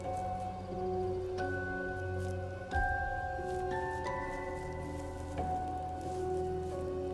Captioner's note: pensive music continues; birds chirping